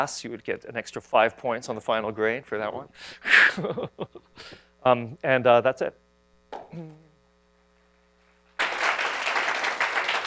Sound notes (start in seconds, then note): 3.4 laughs; 6.4 applause